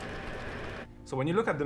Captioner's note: table whirring